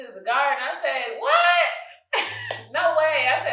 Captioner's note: chuckles